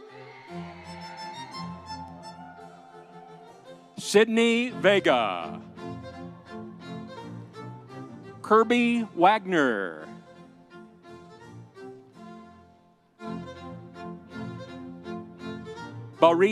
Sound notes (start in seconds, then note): 0.0 audience cheering; 6.3 audience applauding; 13.2 happy music continues